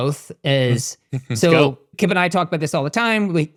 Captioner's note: chuckles